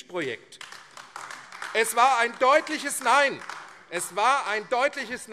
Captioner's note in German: Beifall AfD